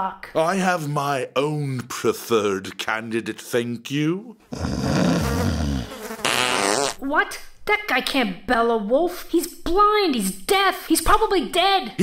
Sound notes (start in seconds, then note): 4.5 snoring sound; 4.5 farting sound